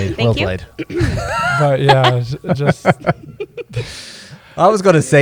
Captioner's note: laughter